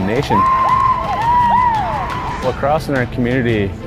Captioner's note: players cheering